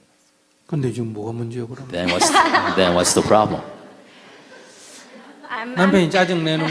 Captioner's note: questioner/Audience Laughter